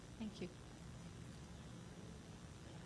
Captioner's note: voiceover